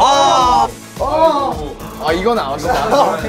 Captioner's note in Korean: 아이고